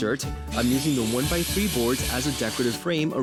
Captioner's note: saw whirring